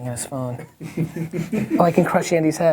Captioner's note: people laughing